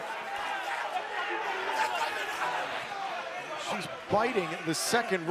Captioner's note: crowd chatter